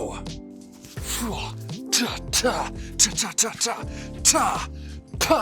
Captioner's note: Chosen making kung fu noises